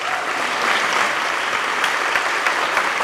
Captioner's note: applause